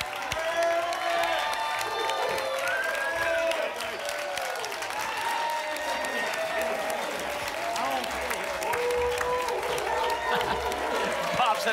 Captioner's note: applause and cheering